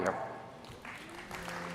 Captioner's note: applause